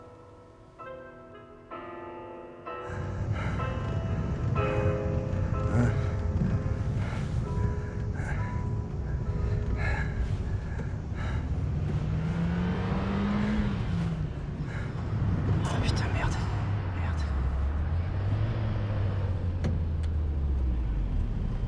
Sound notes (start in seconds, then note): 2.9 panting, muttering; 11.2 engine revs